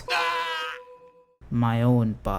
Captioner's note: aagh